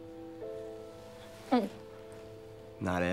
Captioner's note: dramatic orchestral music; gulps